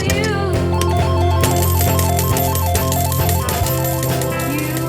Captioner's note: jackpot bell blaring; coins clinking